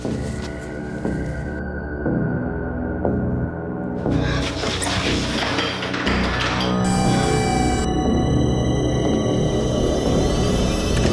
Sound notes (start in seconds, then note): 7.4 robot whirring